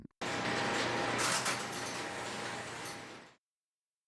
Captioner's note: clacking noise as many relays operate and release